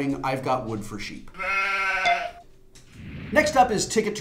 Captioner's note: sheep baaing